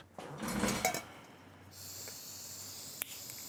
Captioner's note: hissing sound